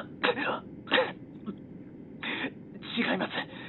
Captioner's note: cough